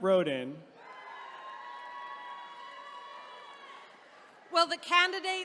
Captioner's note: attendees cheering